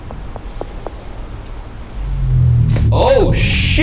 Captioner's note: faint rustling; tense music